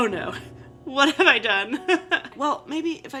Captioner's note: laughing